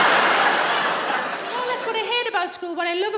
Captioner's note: laughter